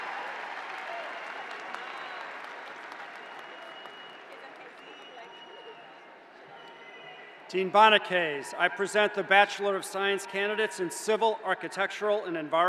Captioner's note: cheers and applause